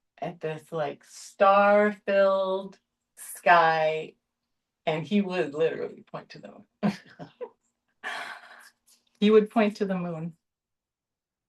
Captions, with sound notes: at this like star filled sky and he would literally point to the moon [light laughter] he would point to the moon